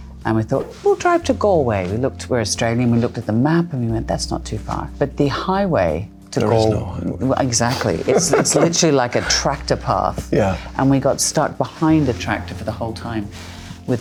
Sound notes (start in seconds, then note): 8.0 Michael laughs